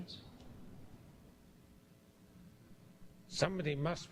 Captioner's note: pause